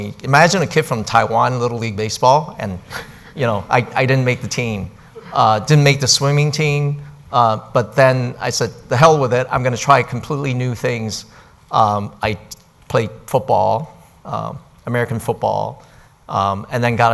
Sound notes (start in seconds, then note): 2.8 sighs